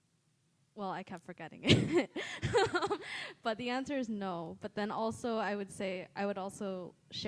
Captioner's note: laughs